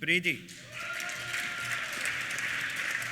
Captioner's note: applause; cheers